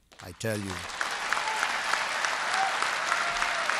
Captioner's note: applause